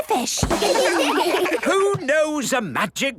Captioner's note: children laugh